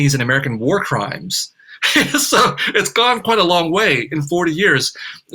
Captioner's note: laughs